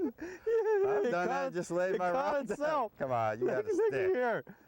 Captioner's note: laghter; laughter